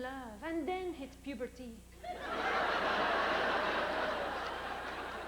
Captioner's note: laughter